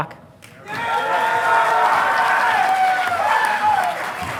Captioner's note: audience applauding